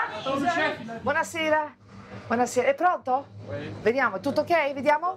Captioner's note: speaks in Italian